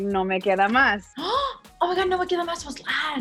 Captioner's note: gasps